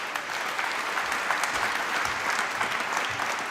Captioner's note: applause